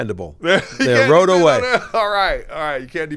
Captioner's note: laughs